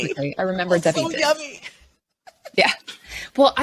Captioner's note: laughs